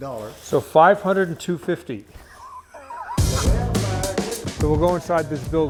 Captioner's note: laughs